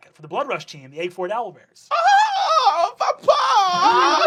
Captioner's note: screams in delight